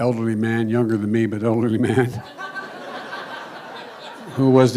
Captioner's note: laughter